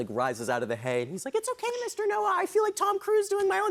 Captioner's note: high-pitched voice